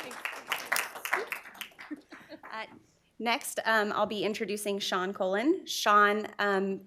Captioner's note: applause